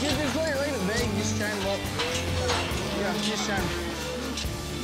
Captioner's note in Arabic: صوت بوابات; خرور الأبقار